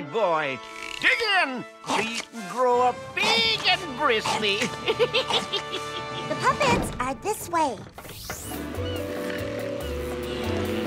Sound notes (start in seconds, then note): 4.0 laughing